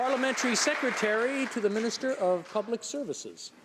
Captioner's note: some Applause